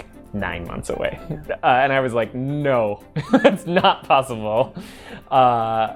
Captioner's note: laughing